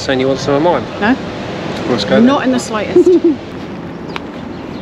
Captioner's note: laughter